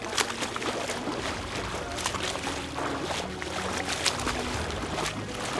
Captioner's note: water splashing